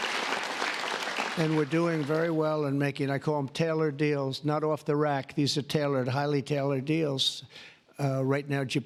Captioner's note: applause